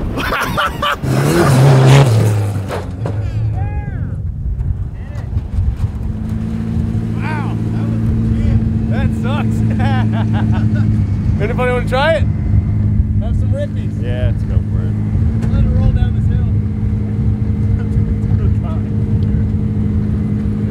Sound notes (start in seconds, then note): 0.8 engine revving; 9.2 laughs